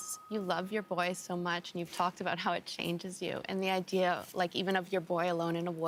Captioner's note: bell rings